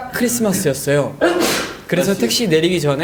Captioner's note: achoo